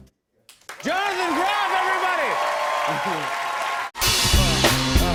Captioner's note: cheers and applause